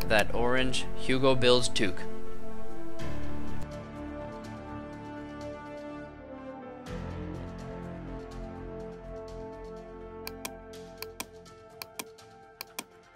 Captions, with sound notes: that orange Hugo Builds toque. (clicking)